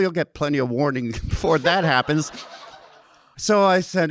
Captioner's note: audience laughing